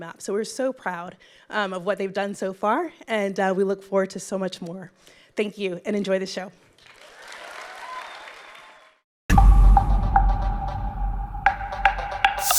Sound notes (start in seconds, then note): 6.8 audience clapping; 9.3 energetic music